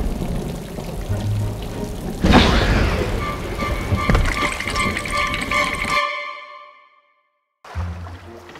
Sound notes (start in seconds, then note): 1.9 lightning strikes; 4.3 terrifying music